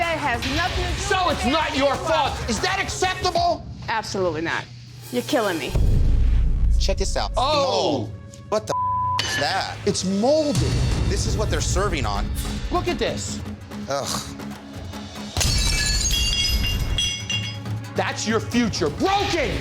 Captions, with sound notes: - That has nothing to do with a damn dishwasher. - So it's not your fault, is that acceptable? - Absolutely not. You're killing me. - Check this out, it's mold. - Oh! - What the (beep) is that? - It's moldy. (suspenseful music) - This is what they're serving on. - Look at this. - Ugh. (plates shattering) - That's your future, broken!